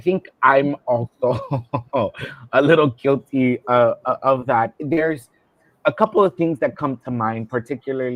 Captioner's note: laughter